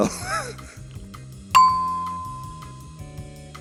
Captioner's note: ding!